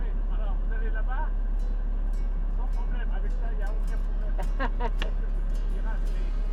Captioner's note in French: rires